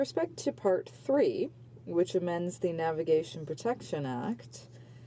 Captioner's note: speaking French